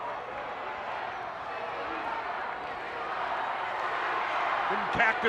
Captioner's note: audience chanting and clapping